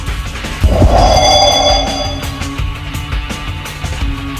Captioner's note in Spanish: Sonido de teletransportacion